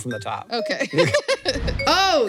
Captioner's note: laughs